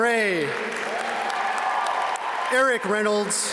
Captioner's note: audience cheer and applaud